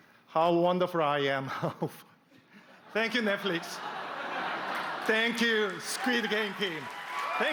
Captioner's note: applause